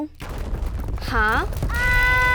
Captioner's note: heavy quaking; Malice screaming